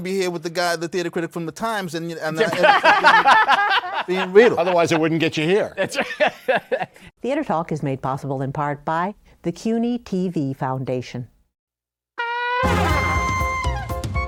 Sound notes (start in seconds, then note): 2.4 laughter; 6.5 laughs